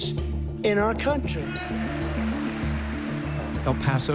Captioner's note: cheers and applause